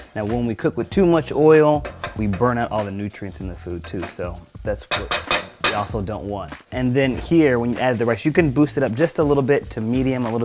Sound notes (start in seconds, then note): none